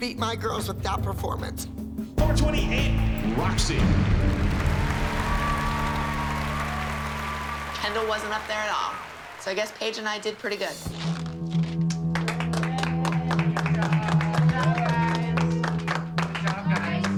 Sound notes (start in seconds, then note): 4.2 applause and cheering; 12.0 applause